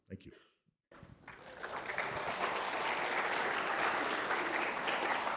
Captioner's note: applause